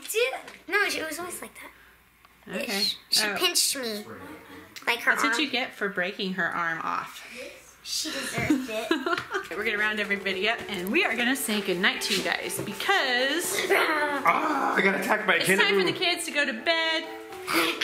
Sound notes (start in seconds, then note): 8.1 laughing; 13.8 screams